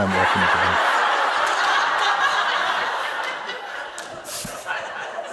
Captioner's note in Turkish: Gürültülü kahkaha